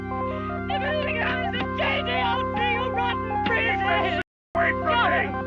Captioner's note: yelling